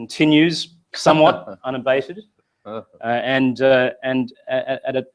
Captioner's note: laugh